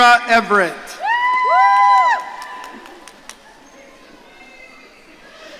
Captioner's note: audience cheering